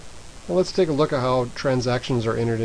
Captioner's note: voiceover